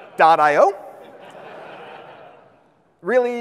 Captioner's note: audience laughs